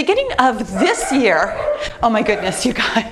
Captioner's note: dog barking